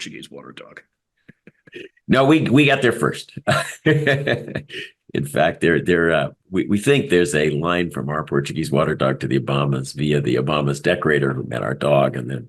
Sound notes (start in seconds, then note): 3.2 laugh